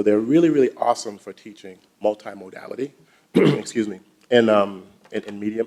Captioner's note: clears throat